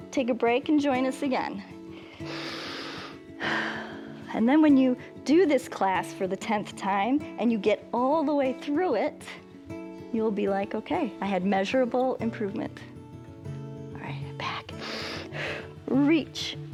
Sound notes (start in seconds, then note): 1.9 inhales and exhales; 14.7 inhales and exhales